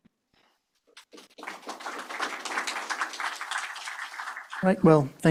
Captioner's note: applause